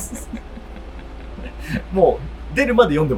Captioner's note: laughing